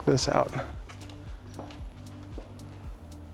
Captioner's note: footsteps